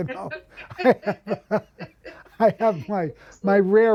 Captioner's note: chuckles